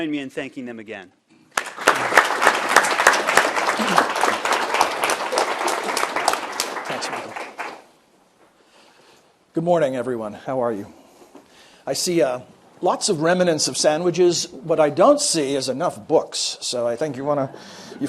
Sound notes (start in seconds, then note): 7.9 applause